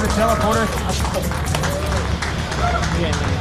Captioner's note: applause